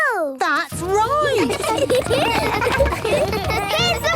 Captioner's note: laughter